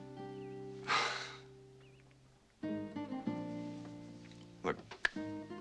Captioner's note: sighs